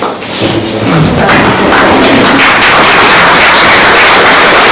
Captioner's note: oklaski